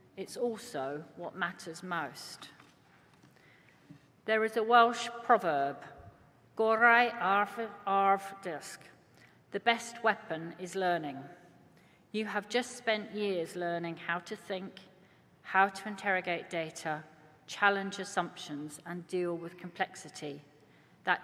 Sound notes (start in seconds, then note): none